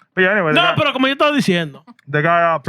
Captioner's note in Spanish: Hablando en idioma extranjero